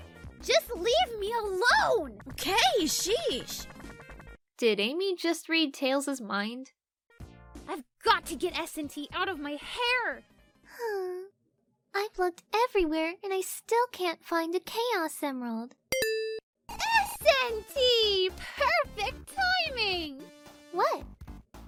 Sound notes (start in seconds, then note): 11.2 sigh; 16.0 Starpost Sound